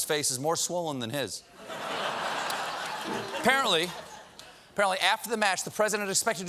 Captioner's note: laughter